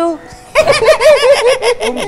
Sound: laughing

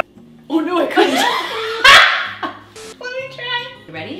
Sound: both laughing

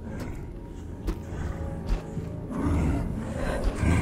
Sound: creature growling

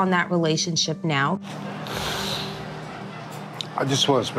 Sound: sniffles

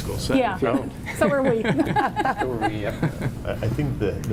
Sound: laughter

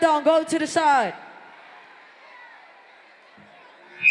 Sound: crowd noise

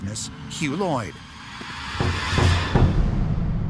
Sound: knocking

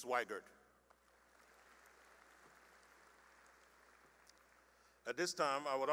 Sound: applause

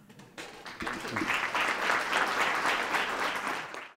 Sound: clapping

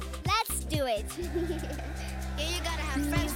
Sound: crowd cheering; rapping

